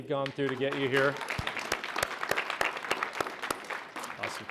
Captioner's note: applause